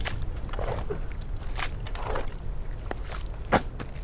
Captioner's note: grunt